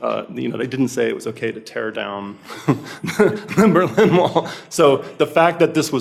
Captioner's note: laughs